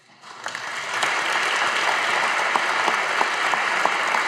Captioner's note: audience applauding